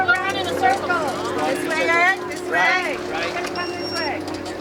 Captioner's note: voiceover